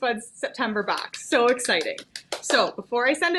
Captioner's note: applauding